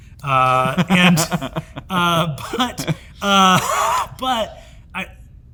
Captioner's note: Hank laughs